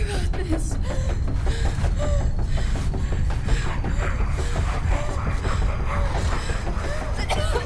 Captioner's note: Abby pants; urgent music